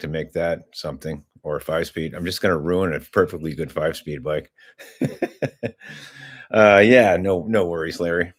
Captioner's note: laughter